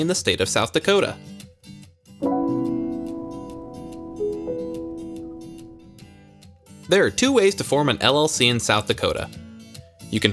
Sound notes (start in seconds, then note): 2.2 soft ding